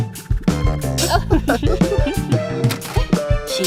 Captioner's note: Candle and Silver Spoon laugh